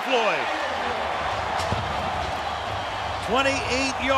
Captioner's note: cheering